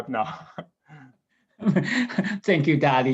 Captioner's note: laughing